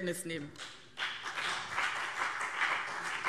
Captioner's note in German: Beifall BÜNDNIS 90/DIE GRÜNEN und CDU